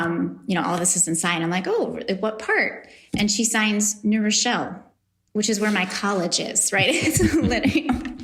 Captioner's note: laughs